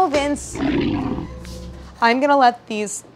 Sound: lion roars

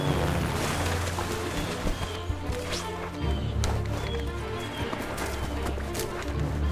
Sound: water rushing; birds singing

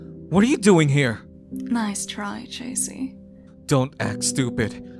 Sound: none

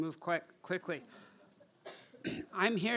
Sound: laughter

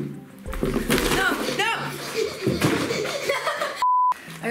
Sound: panting and laughing

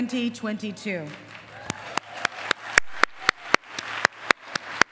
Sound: applause

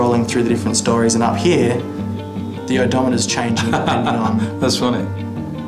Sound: laughs

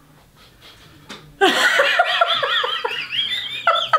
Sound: laughter

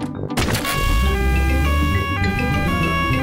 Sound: siren wailing

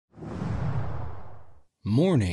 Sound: air whooshing

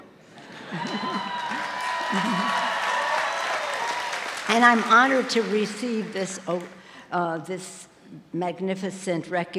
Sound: applause

